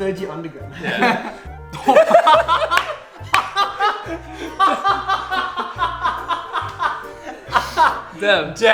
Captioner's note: laughs